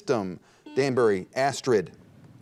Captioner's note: buzzer dings